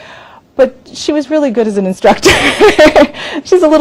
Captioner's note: laughs